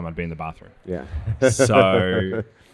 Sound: laughs

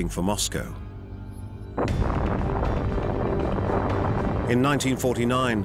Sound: explosion

